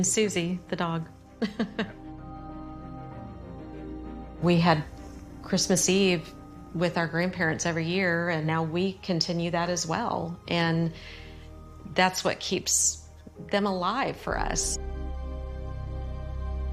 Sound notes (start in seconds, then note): 1.4 chuckling; 3.8 mysterious melody building